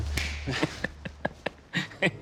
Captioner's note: laughs